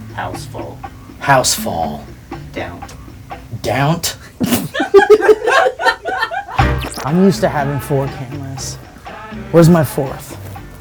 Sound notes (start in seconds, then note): 4.3 laughing